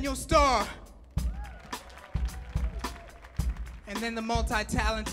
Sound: audience clapping and cheering

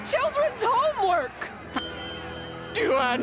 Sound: dinging

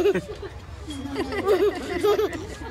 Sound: laughing

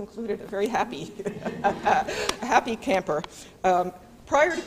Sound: laughs

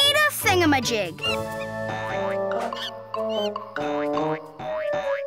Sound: monkey screeches; gentle music

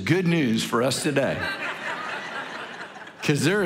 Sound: congregation laughing

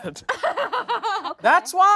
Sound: group laughing

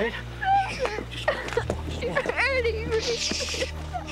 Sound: crying

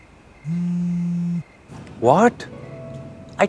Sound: phone vibrates

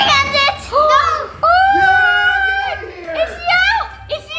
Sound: gasps

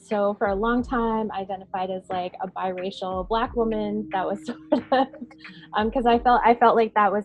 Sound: chuckling

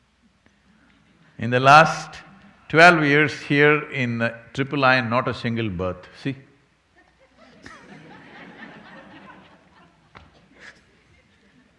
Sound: laughter

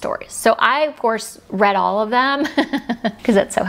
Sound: giggles

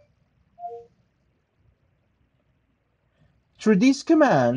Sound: phone beeps

